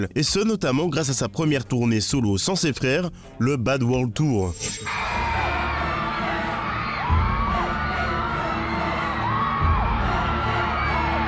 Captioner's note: applause